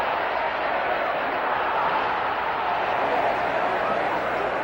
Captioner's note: audience applauds and cheers